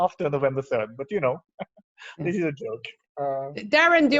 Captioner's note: laughs